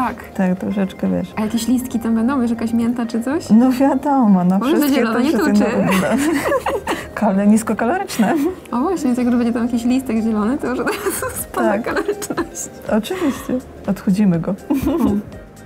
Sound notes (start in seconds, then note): 5.3 laugh